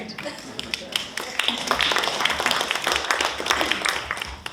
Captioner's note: audience applauding